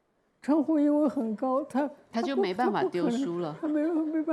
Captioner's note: Mandarin